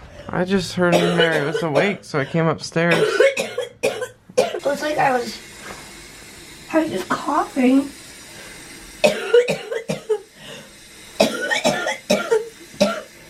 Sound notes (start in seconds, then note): 2.8 coughing; 8.6 coughing